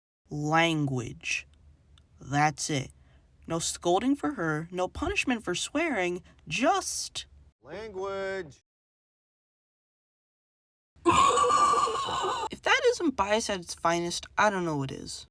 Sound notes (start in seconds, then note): 11.0 loud screlch